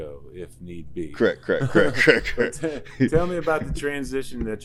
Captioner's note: chuckles